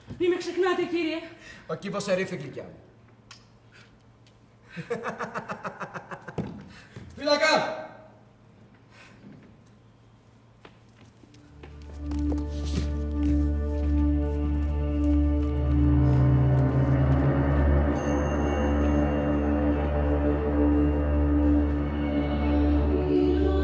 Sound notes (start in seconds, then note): 4.7 γέλιο